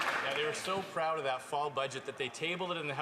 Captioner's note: some Applause